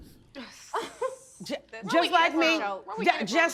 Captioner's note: all scoffing